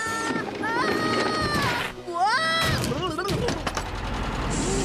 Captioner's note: thud!